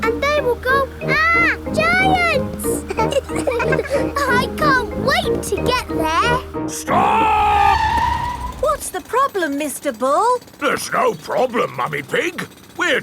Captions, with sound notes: And they will go, "Arrgh! Giants!" (ALL LAUGHING) I can't wait to get there! -Stop! -(TIRES SCREECHING) What's the problem, Mr. Bull? There's no problem, Mummy Pig.